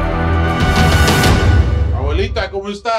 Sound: foreign language

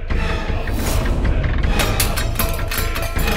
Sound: clattering

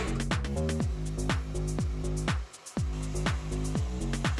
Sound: Dyson whirring

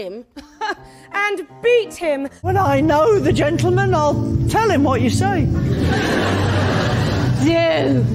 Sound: Benedick in a silly voice; laughter

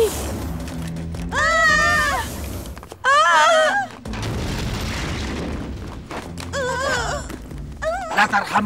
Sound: screams

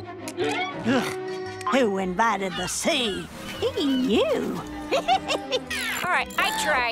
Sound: laughing

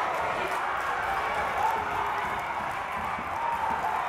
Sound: cheers

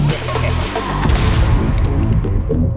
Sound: explosion

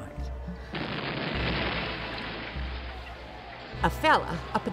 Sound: explosion

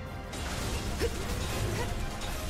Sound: grunting

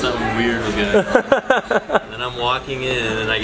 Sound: laughing

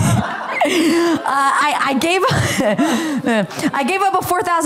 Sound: laughter

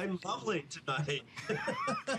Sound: laughter

